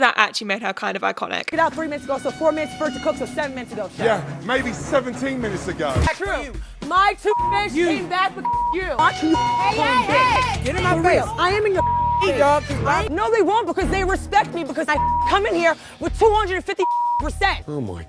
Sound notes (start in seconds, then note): 7.2 beep